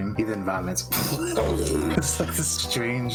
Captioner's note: pleghghhhghh